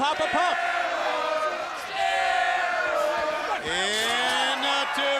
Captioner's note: crowd cheering